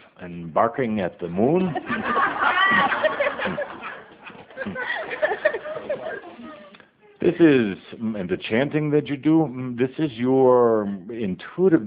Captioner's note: audience laughter